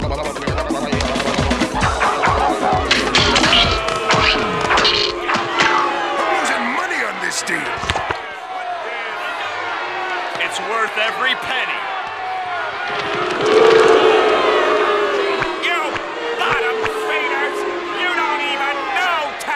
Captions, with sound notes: [audience booing] I'm losing money on this deal! [audience booing] It's worth every penny. [audience booing] You bottom feeders! You don't even know talent!